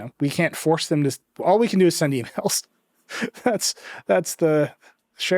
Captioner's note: chuckles